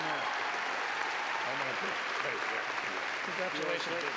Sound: clapping

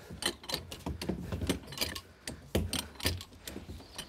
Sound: lever noises

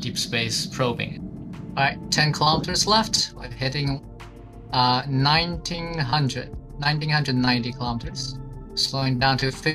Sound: on the radio

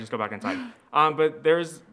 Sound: laughs

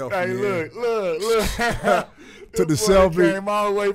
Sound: laughing

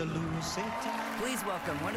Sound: cheering, applause

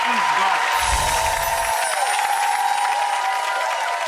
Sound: audience applauding; chimes

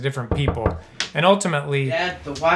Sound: door knocking

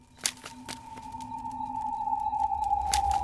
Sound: footsteps

